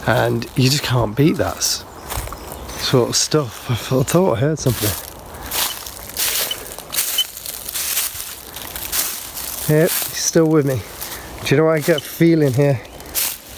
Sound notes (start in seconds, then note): 1.9 leaves rustling; 5.4 leaves rustling; 6.8 beep